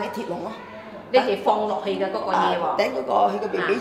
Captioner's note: Cantonese